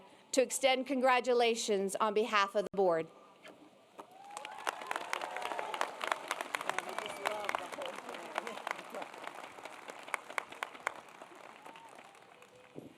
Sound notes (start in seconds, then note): 6.3 applause